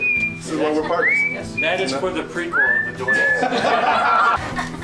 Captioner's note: laughter; fake crying